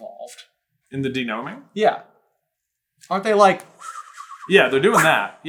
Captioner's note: wind whipping sound